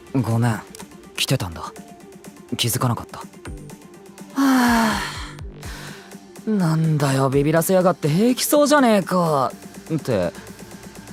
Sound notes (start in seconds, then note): 4.3 sigh